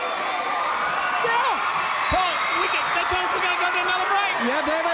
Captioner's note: crowd cheering